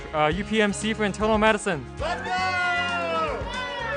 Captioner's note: cheering